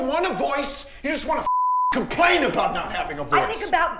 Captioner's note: beep